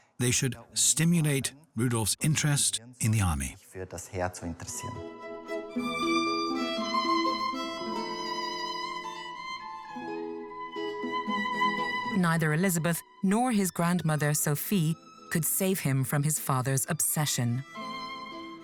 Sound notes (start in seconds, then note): 3.8 speaks in foreign language; 4.9 elegant classical music